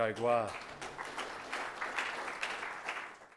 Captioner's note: applause